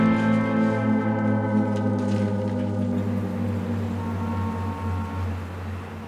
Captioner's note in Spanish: Bullicio de la calle